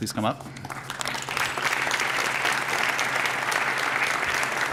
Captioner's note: applause